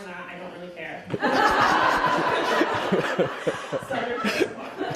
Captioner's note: audience laughing